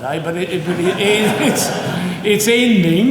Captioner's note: audience chuckling